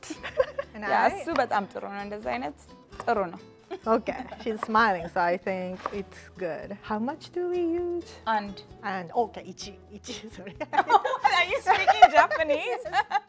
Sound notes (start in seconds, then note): 0.2 speaking Amharic; 8.4 speaking Amharic; 9.5 speaking Japanese; 10.6 laughs; 13.1 speaking Amharic